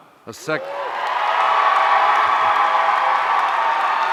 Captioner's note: audience cheering